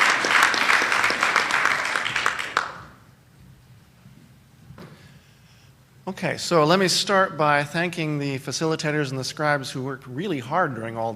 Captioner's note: applause